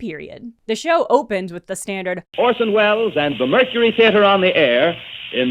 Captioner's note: grainy radio recording